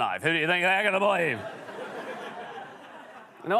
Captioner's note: laughter